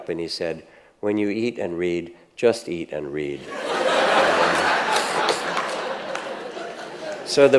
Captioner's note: audience laughs